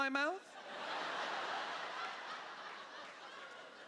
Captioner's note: laughter